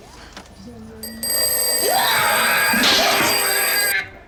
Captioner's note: rings